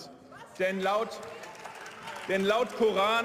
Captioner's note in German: Beifall und Zwischenrufe